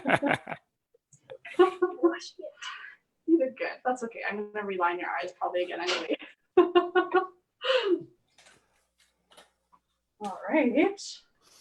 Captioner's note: laughs; laughs